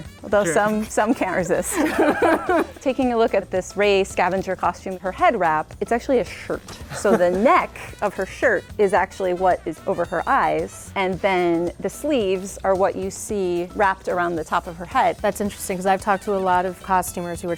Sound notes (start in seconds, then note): 1.9 laughs